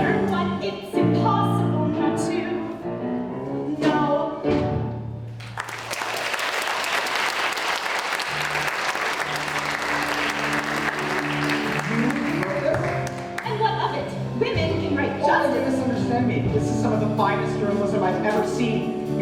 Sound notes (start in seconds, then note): 5.4 applause